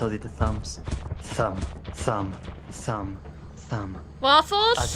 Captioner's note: thum! Thum! Thum! Thum!